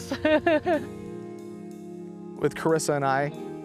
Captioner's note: laughs